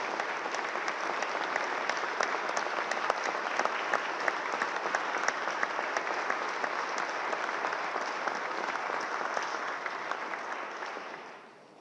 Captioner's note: applause